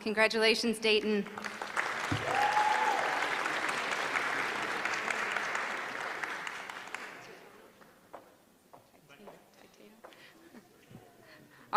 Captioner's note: applause